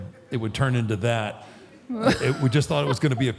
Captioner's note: Michelle laughs